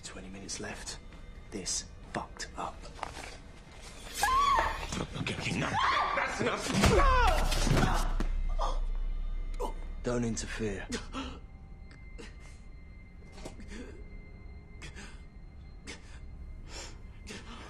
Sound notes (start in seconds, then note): 5.6 dark screams; 6.5 black groans; 14.3 GROANlNG